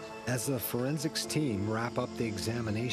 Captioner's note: voiceover